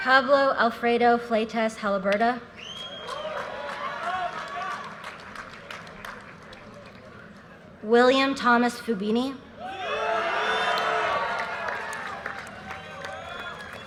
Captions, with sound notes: Javo Alfredo Flatez Halaberdo. (audience cheers and applause) William Thomas Fuvini. (audience cheers and applause)